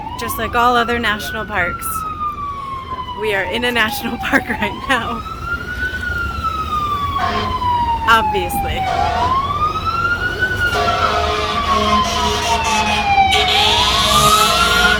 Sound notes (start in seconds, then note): 5.3 sirens; 9.2 sirens